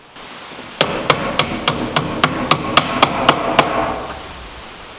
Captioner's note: hammer thumping